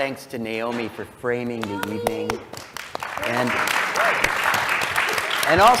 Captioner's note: applause